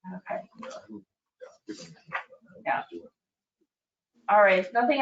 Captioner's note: speaking distantly